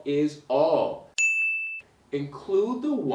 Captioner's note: bell rings